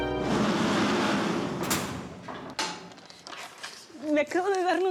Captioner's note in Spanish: Ruido metálico